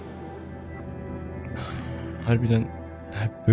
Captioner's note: exhales